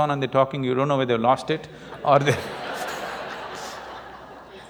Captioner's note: laughter